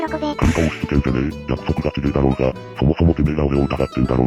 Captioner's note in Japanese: 咳払い